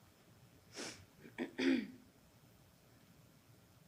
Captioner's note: panelist sniffs and clears throat